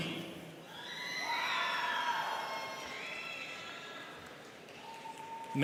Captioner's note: students cheering